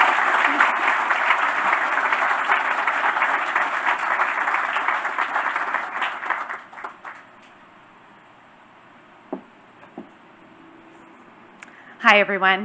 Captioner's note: applause